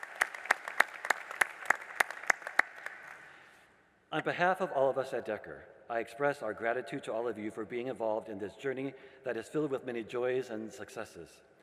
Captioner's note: applause